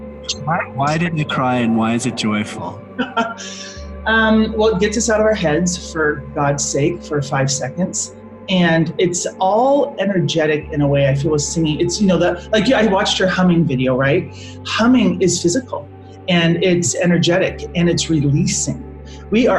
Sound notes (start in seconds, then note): 3.2 laughs